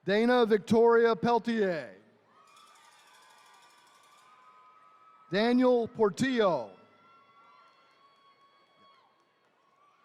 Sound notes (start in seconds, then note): 2.2 attendees cheering